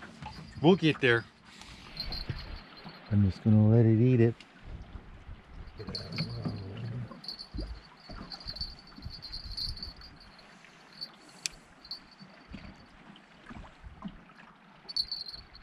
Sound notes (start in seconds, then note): 9.5 jangling; 11.4 click